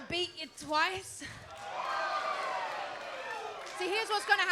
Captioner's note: crowd exclaims